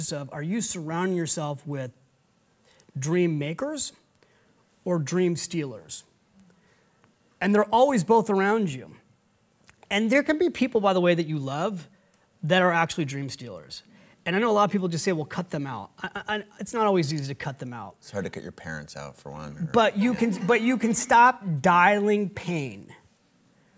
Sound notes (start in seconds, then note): 19.9 audience laughing